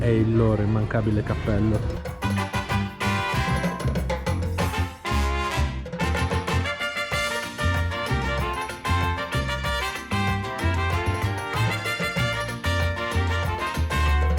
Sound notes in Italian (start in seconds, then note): 7.2 Applauso